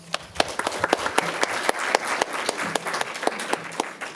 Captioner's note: audience clapping